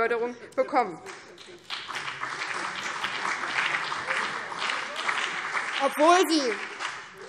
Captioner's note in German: Beifall BÜNDNIS 90/DIE GRÜNEN und vereinzelt CDU